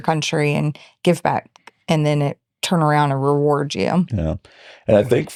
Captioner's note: laughing